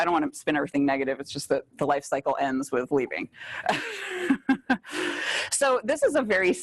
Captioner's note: laughs